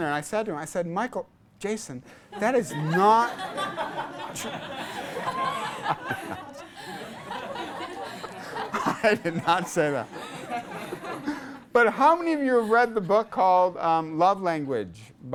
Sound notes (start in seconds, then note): 3.8 class laughs; 5.7 laughs